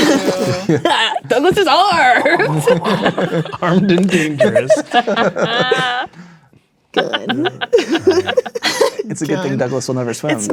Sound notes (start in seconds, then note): 0.0 players laughing; 5.4 players laughing